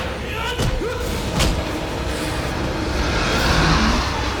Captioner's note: growls